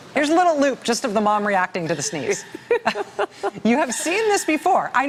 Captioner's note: laughter